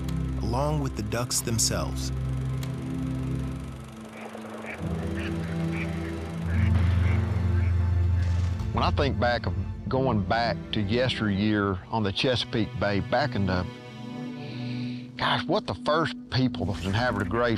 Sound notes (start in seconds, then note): 3.0 film projector whirring, ducks quacking; 6.3 gunshot